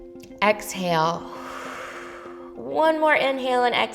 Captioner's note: inhales; exhales